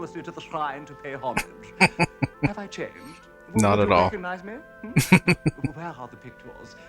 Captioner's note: laughing